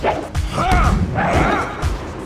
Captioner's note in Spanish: Coach se queja